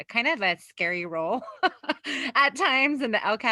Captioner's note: laughs